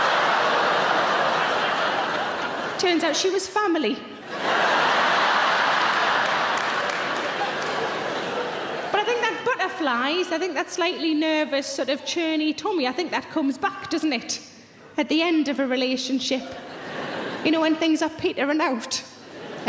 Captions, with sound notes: Turns out she was family. (audience laughing) But I think that butterflies, I think that slightly nervous sort of churny tummy, I think that comes back, doesn't it? At the end of a relationship, you know, when things are petering out.